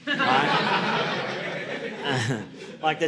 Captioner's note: audience laughing